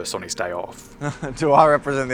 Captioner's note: chuckle